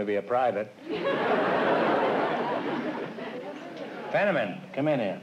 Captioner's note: laughter